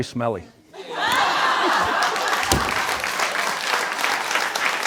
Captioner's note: all laugh and clap